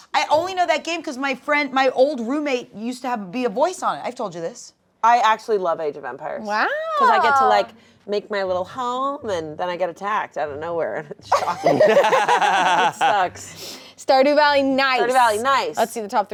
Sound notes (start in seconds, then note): 11.3 laugh